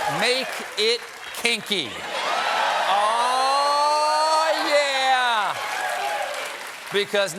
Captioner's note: cheers and applause